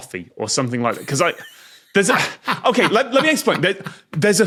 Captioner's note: wheezes, cackles